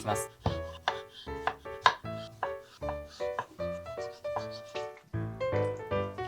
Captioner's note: sound of aloe vera being cut; sound of touching